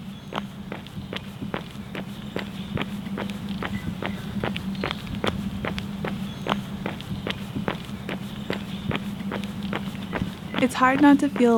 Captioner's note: feet running on pavement